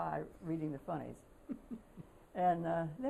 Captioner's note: laughter